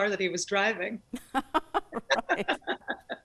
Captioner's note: both laugh